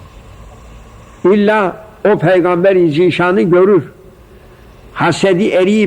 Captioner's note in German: saws